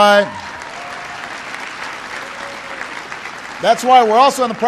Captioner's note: applause